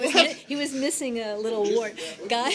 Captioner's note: laughter